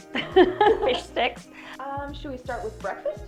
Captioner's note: laughs